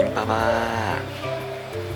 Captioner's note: meow